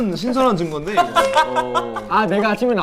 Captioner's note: haha